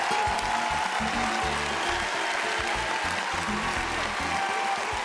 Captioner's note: cheering